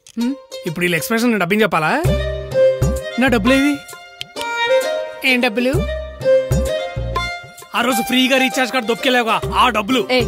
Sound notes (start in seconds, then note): 4.4 snaps finger